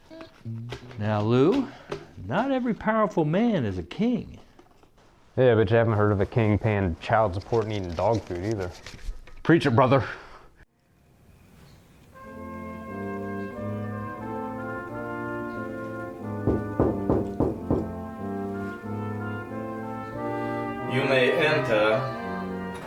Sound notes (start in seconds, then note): 16.3 knock at the door